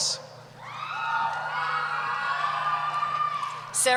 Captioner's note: cheering